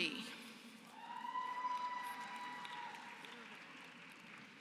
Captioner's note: applause